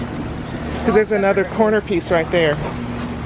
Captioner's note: mumbles